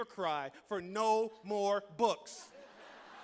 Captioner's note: laughter